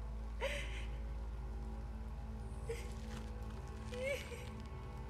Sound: woman sobbing

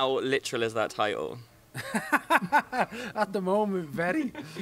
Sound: laughs

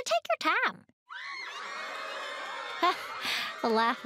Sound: cheering

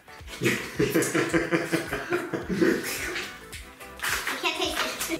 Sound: laughing

